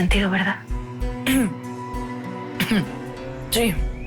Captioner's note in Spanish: Carraspea